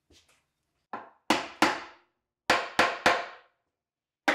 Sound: hammer taps

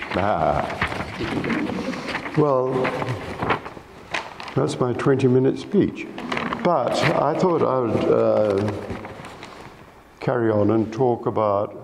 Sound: laughs

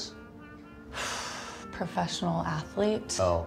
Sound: sighs

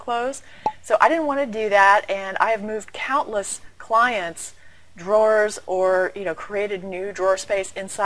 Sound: pop

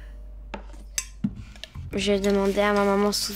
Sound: speaking in French

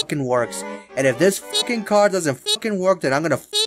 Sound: beeeep

